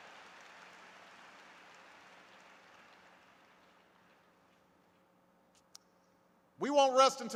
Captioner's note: applause